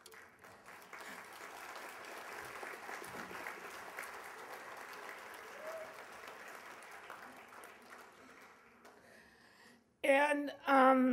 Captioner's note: applause